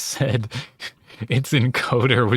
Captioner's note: barely contained laughter